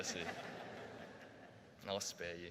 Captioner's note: audience laughing